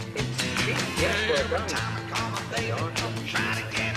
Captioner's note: man speaking on tv